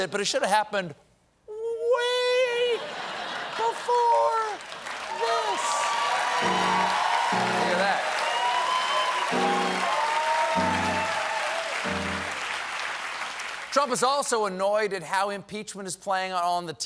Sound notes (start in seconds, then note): 6.7 cheers and applause; 6.7 piano riff